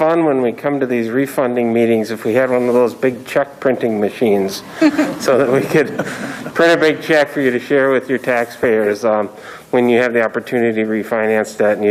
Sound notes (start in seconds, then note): 4.6 crowd laughing